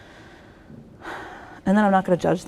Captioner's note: sighs